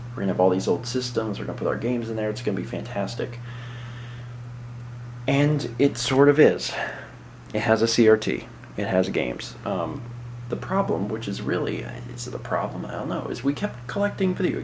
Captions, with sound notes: we're gonna have all these old systems, we're gonna put our games in there. It's gonna be fantastic." (inhales) ...and it sort of is. It has a CRT. It has games. Um...the problem, which is really "is it a problem?" I dunno, is that we kept collecting video games